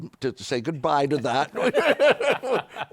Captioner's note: laughter